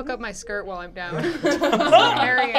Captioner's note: laughing